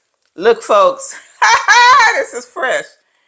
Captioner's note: laughing